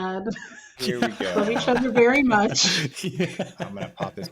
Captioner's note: laughing